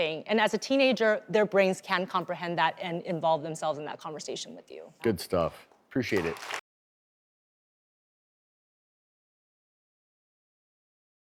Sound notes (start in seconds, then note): 6.0 applause